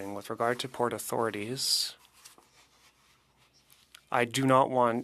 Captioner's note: speaking French